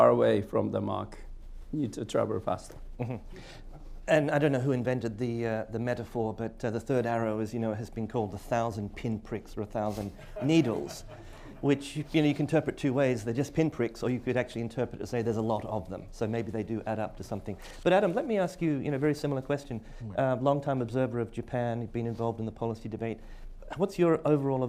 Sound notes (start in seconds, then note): 10.1 laughter